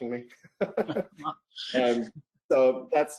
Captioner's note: laughs